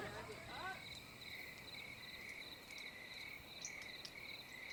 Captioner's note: cricket chirping